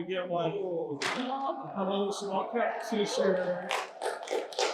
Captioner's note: applause